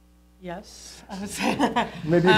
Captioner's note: laughs